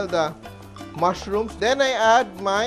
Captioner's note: sizzle